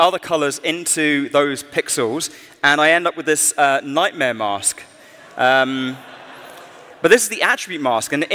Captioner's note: laughter